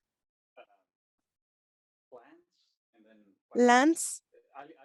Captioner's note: speaking Spanish